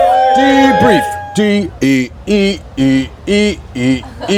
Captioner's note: hums